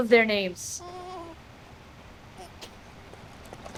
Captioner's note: baby whining